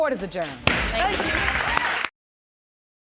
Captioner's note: audience applauds